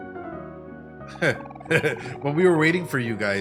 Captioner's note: laughs